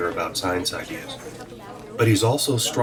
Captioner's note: chatter